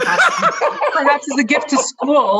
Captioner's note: laughs raucously